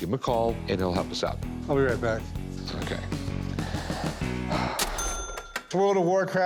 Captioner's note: sighs